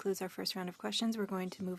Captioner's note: speaking French